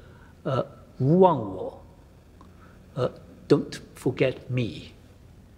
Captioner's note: speaks foreign language